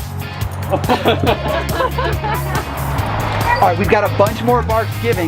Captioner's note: people laugh